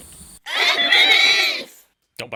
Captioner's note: insect voices